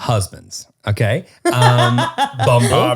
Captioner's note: laughter